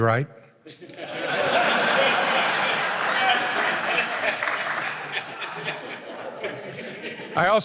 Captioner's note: laughter